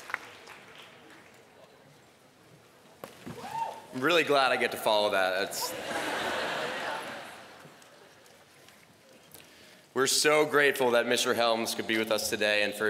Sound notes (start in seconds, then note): 5.6 laughter